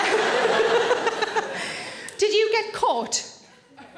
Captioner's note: audience laughing